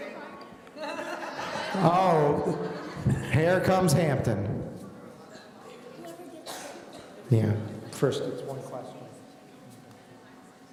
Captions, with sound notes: (laughing) Oh, here comes Hampton. - Whoever gets this? - Yeah, first of the questions.